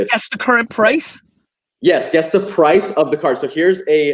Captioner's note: none